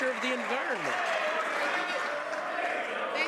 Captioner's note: some Applause